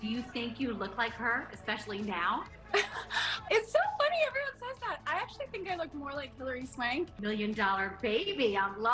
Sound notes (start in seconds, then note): 2.7 laughs